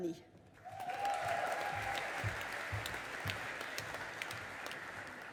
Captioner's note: audience applauding